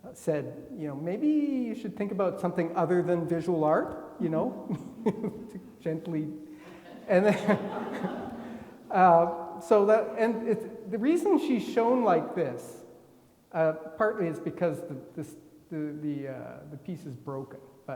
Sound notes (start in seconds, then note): 6.6 attendees laughing